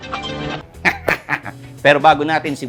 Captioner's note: laughs